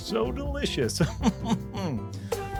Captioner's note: laughs